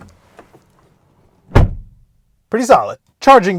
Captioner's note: door bangs